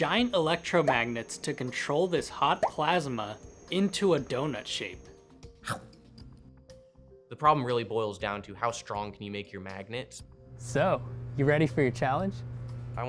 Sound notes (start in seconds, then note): 5.6 chomp